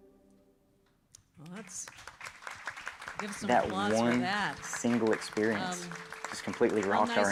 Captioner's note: applause